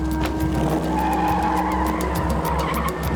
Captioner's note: tires squealing